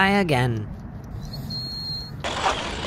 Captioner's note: nose whistle